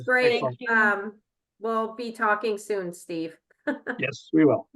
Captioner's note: chuckles